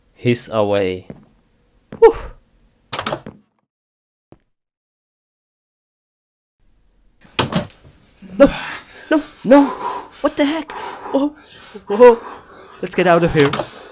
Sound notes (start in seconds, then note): 2.9 door opens; 7.3 door closes